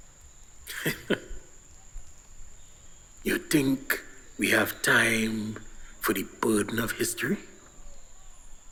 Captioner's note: laughs